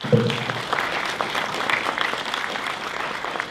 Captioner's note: applause